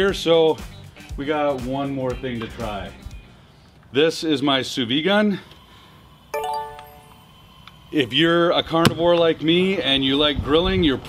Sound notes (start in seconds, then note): 6.4 beeping sound